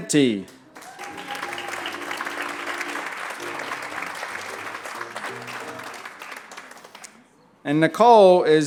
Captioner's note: applause